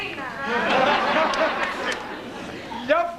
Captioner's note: γέλιο